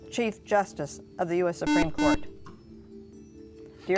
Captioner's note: buzzer